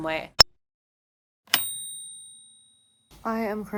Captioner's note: bell dings